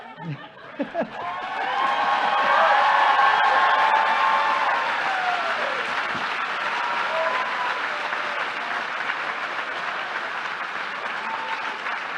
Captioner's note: applause